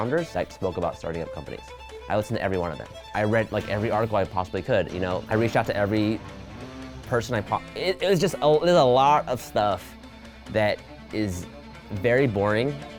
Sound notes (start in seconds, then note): none